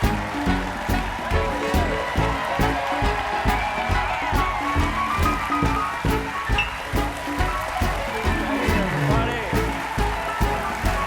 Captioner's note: cheers and applause